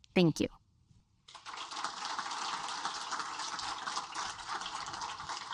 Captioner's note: audience applaud